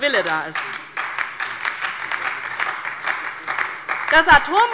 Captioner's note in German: Beifall bei der LINKEN und der SPD